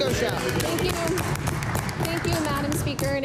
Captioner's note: some Applause